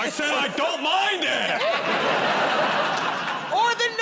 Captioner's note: laughter